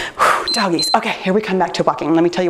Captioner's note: timer beeps